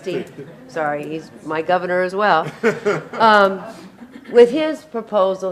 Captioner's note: laughing